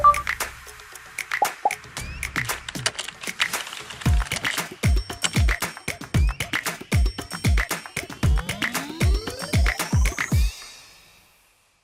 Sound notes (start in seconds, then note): 1.4 upbeat music; 1.4 phone chiming; 3.5 keyboard tapping; 5.6 upbeat music